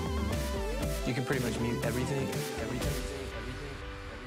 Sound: echoing

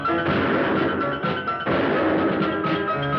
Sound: gun fires

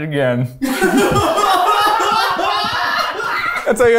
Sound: all laughing

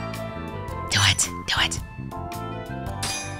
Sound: whispers

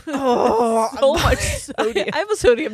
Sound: groans

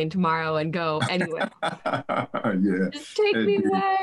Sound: laughs

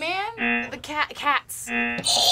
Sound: buzzer rings

